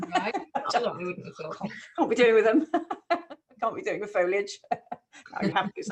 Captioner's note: laughing